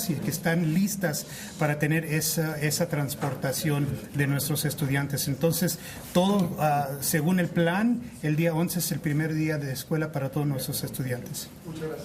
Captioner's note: speaking spanish